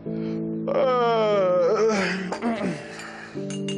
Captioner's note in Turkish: Esneme sesi çıkarır